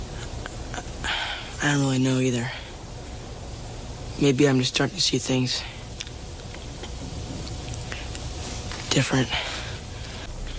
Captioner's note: sigh